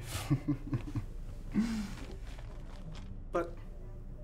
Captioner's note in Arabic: يضحك